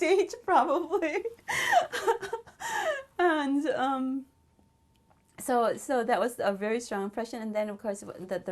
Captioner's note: laughs